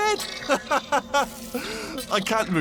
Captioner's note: inhale